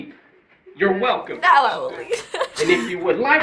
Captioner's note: giggles